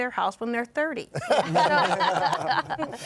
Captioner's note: laughter